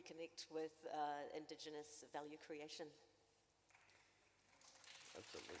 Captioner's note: applause